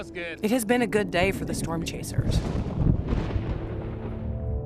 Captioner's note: thunder rumbling